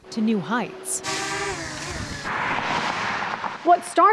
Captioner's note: drone whirring